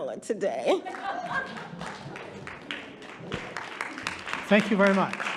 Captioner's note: audience laughs and applauds